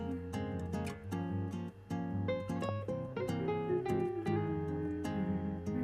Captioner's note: humming